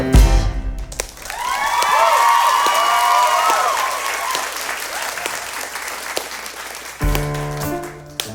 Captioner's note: slow clapping